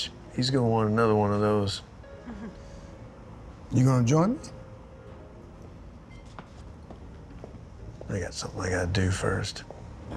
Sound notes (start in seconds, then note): 1.7 laughs